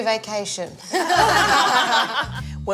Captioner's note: laughter